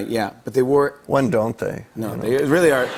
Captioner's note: light laughter